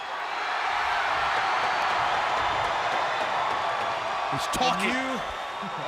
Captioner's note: crowd cheering